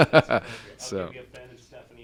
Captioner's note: laughter